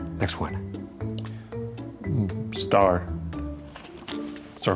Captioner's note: none